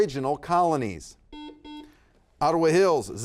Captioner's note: buzzer beeping